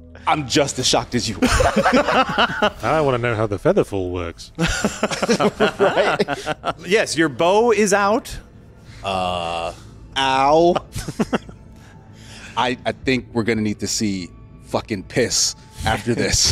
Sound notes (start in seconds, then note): 1.3 laughing; 4.5 laughing